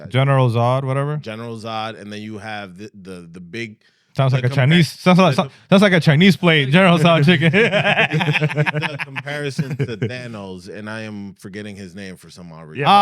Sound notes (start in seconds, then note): 6.5 laughing